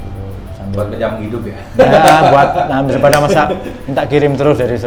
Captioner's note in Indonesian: tertawa